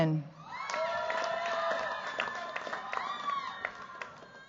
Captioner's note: cheers, applause